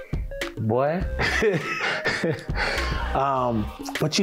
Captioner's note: laughing